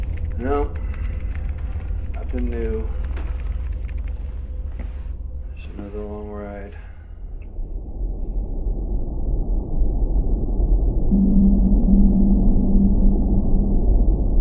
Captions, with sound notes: - No, nothing new. (keyboard clacking) There's another long ride. (spaceship whirring)